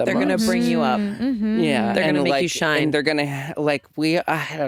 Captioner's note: none